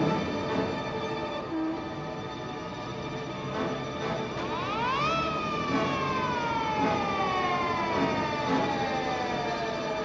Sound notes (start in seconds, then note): 4.3 sirens blaring